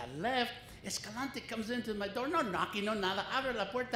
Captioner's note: foreign language